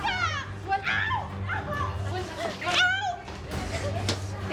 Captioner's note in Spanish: Gritos y exclamaciones